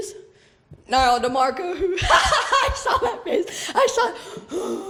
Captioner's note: laughs